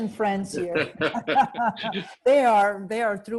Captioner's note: both laughing